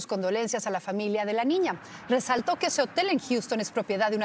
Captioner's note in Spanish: hablan en ingles